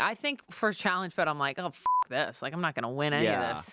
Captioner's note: beep